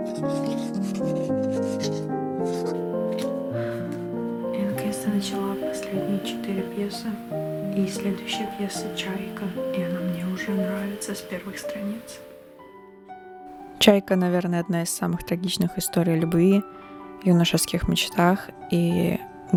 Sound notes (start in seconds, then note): 3.2 tired sigh